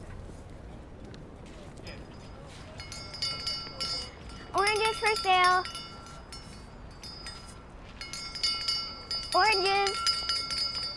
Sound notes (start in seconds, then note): 2.6 bell rattles